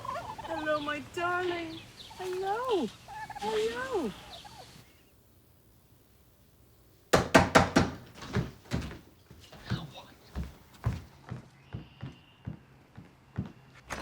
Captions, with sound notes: Hello, my darling. Hello, hello. [knocking] Now what?